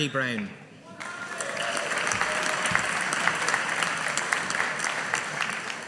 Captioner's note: audience applauding